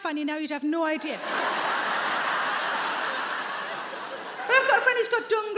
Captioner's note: audience laughing